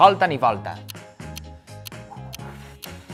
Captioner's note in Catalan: Tic-tac